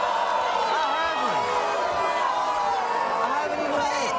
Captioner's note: audience booing